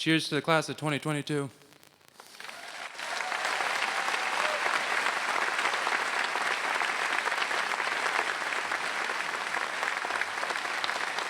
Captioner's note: applause